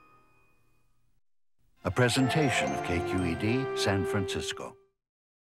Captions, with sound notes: - [Voiceover] A presentation of KQED, San Francisco.